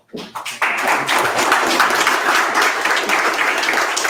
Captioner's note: audience applauds